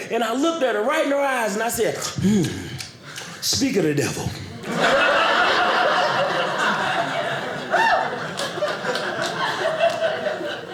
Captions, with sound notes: And I looked at her, right in the eyes and I said, mmh, speak of the devil. (audience laughing)